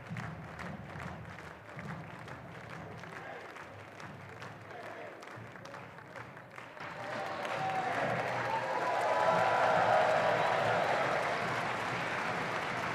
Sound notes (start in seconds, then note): 6.9 audience cheering and applauding